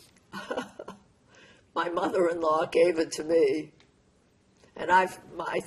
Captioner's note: laughing